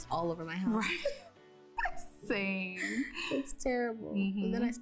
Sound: laughing

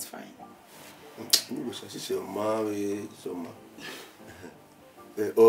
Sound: murmuring

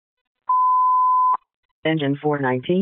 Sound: annoying Beep

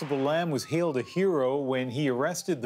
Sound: applause

